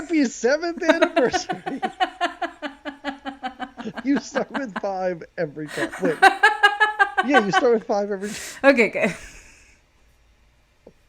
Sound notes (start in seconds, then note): 0.7 both laughing; 6.4 laughs